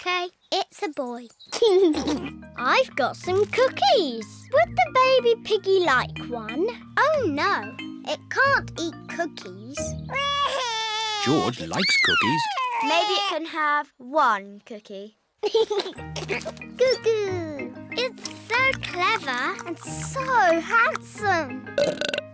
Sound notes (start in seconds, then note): 1.6 giggles; 11.2 bawls; 15.4 giggles